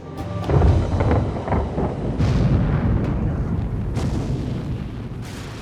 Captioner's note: explosions